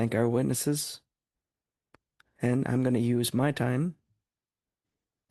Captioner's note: speaking French